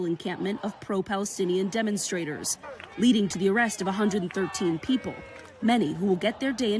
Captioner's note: crowd chanting